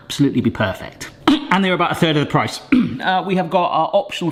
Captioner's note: coughs; clears throat